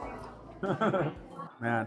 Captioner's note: laughs